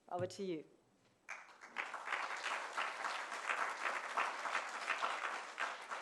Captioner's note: applause